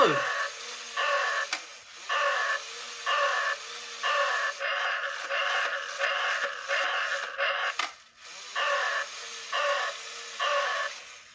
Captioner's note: robotic growls